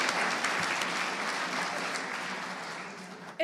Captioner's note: applause